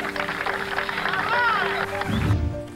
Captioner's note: cheering